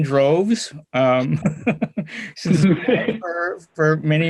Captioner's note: laughs